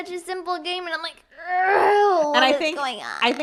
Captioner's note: groans